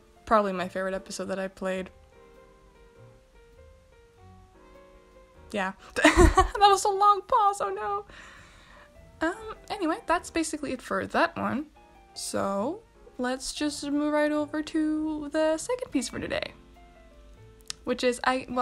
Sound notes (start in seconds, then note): 2.4 silence